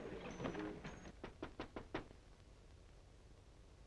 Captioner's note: knocking on door